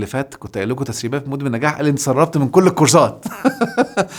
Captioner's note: laughs!